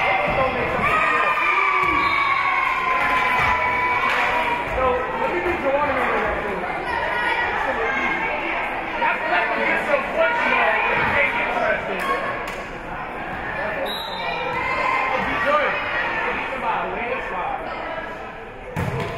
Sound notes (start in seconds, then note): 0.7 spectators cheering; 2.0 whistle being blown; 2.4 spectators cheering and applauding; 7.0 spectators shouting encouragements; 13.8 whistle being blown; 14.6 spectators shouting encouragements